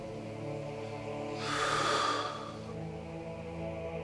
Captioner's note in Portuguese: respiração profunda